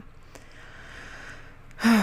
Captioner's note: big intake of breath; sigh